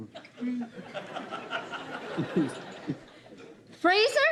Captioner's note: laughter